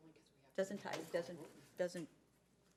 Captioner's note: speaking faintly